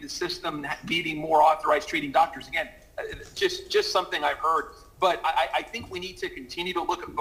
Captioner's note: ~audio distortion~